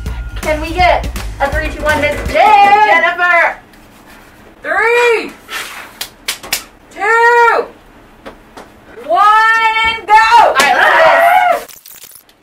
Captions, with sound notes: - Can we get a "3, 2, 1," Ms. Jen?! - Jennifer! - 3! 2! 1, and go! (yelling)